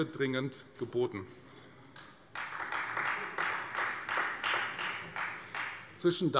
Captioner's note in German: Beifall Freie Demokraten